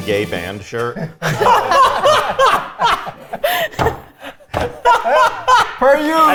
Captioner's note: all laughing; fist banging